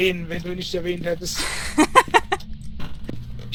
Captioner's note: laughing